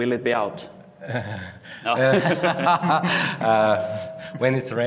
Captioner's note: laughter